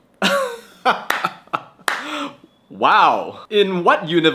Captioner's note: laughs